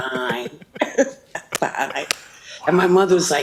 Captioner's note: both laugh